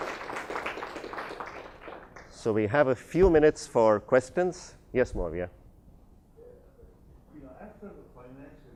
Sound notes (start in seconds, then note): 0.0 applauses